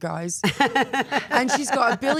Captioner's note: Stephanie laughs